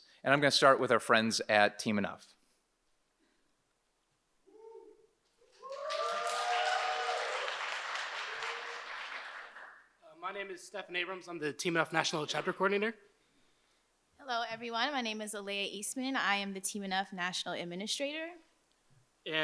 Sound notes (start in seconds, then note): 5.4 audience applauds and cheers